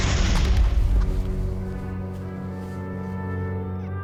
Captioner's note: crash